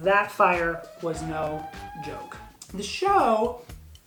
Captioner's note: sirens wailing